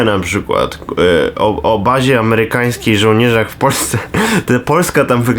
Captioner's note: laugh